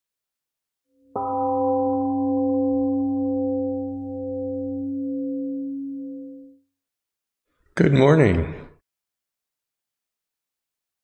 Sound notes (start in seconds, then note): 2.6 temple gong sounds and fades slowly